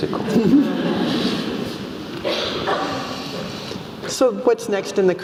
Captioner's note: laugh